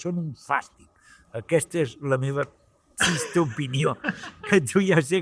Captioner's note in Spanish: Risas